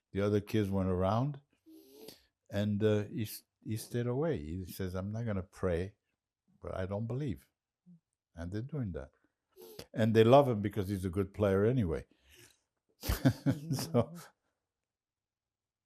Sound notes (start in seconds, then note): 13.0 laughing